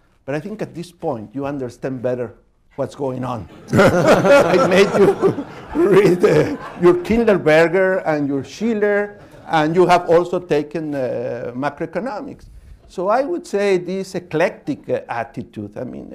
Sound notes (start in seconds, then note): 3.5 laughter